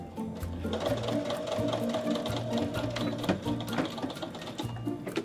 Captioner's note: sewing machine buzzing